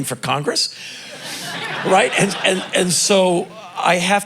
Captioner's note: crowd laughing